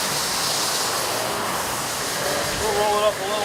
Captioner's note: engine roaring